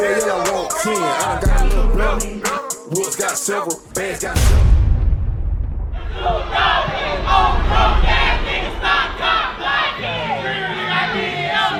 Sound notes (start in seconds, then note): 5.0 intense music; 5.9 crowd chanting